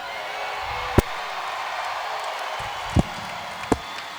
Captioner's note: audience cheers